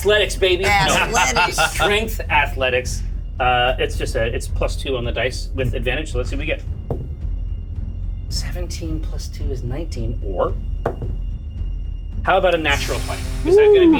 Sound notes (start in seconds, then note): 6.9 die thuds; 10.8 die thuds